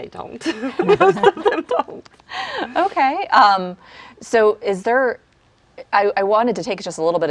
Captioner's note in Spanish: laughs